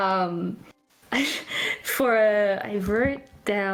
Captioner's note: laughs